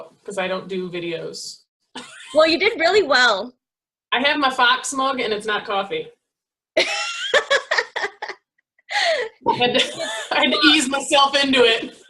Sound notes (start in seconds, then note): 7.3 laughing